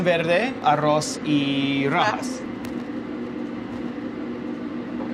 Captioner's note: speaking foreign language